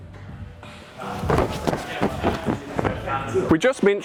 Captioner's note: climber thudding